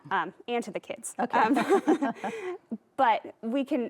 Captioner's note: both laugh